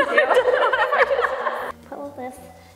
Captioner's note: both laughing